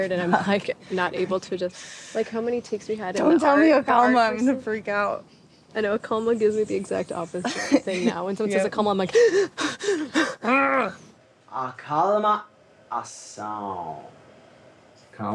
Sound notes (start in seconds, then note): 9.1 breathing heavily; 10.1 grunting; 12.6 speaking in a foreign language